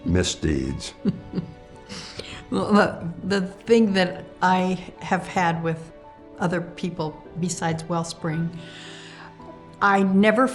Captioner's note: laughs